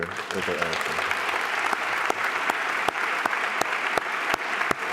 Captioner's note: applause